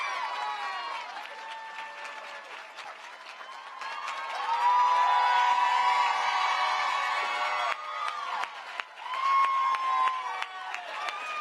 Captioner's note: cheering and applause